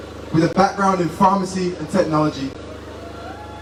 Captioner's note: crowds cheers and claps